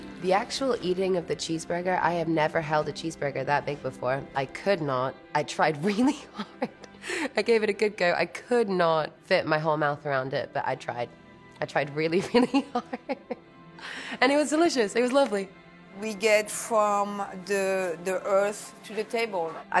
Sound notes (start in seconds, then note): 12.2 chuckling